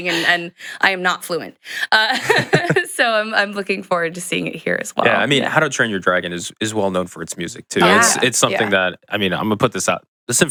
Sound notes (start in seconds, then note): 2.1 laughs